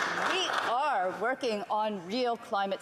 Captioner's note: some Applause